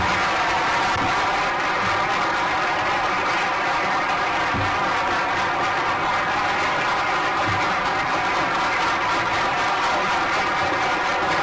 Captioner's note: applause